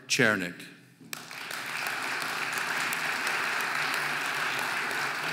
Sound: audience applauding

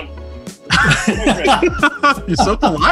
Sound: laughs

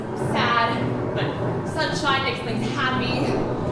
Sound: thunder rumbling

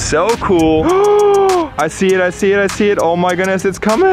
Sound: gasping

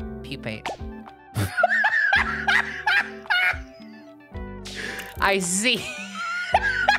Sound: laughing

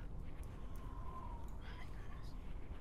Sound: wind howling

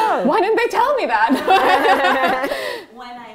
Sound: laughter

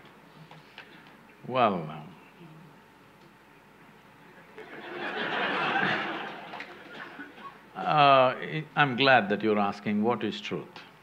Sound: laughter

